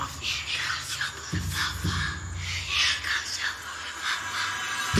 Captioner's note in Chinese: 轻声低语